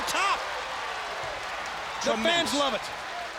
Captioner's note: crowd cheering